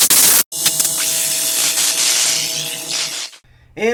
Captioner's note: circuits shorting